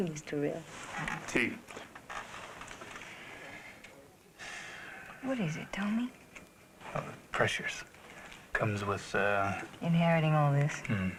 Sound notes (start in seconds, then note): 2.7 sighs